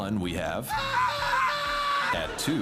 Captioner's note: man screams